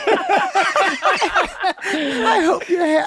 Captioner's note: laughter